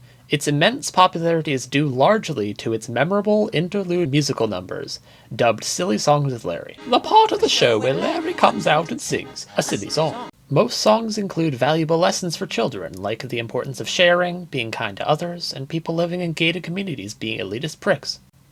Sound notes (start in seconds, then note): 6.7 speak in tandem